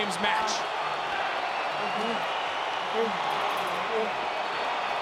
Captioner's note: crowd cheers